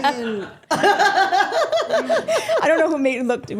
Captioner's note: group laughing